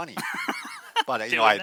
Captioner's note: laughs